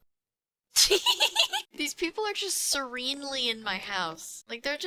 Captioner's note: laughing